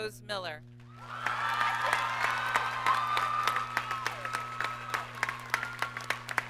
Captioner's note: audience applauds and cheers